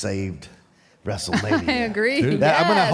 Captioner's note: Michelle laughs